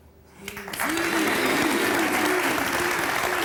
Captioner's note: applause